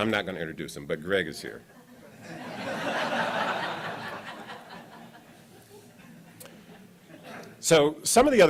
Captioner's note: laughs